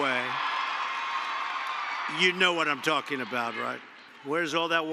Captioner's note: applause